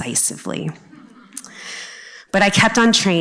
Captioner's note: audience chuckling